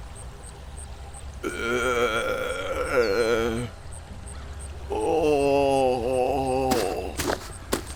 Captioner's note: Barty groans